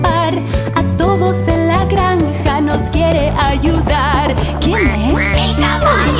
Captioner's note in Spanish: Sonido de pato